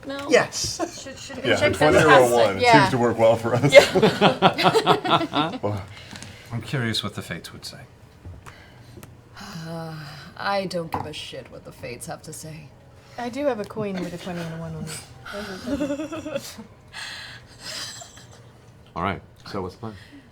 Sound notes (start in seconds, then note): 8.5 sighs